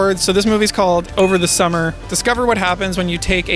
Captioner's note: movie box cover dinging